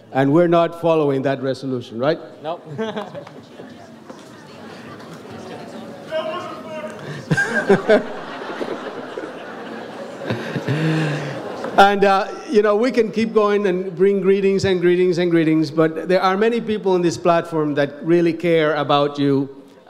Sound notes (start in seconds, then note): 2.7 laughs; 6.8 audience laughs